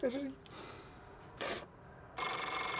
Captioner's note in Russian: Звонит телефон